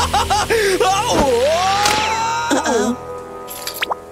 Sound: moaning

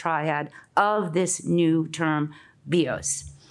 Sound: speaks in Greek

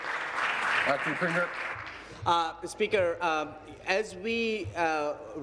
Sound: applause

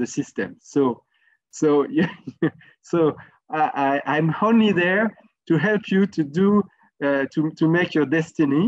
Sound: laugh

